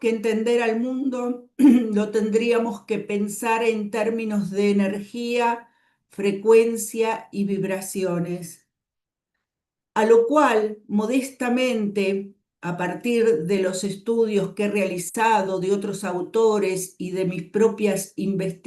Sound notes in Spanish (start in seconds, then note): 1.6 carraspeo